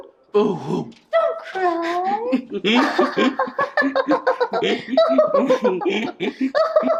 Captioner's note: both laughing